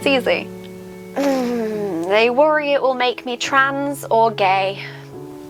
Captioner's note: groans